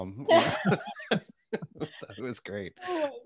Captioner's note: all laughing